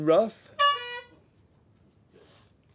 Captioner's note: honking